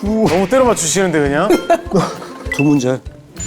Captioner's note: haha